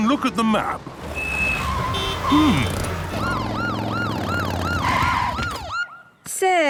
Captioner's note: honking, sirens